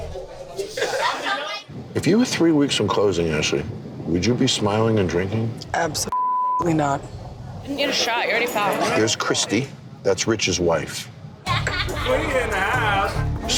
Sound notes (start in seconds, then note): 1.2 woman laughing; 6.1 beep; 11.4 bar chatter; 11.5 woman laughing